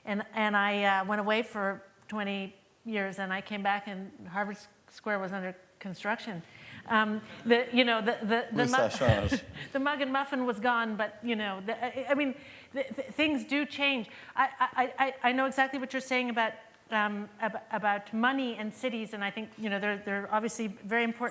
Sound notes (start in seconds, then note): 8.5 non-english speech